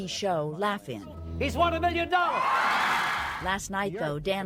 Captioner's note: applause